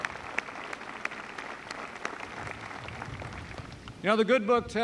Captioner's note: applause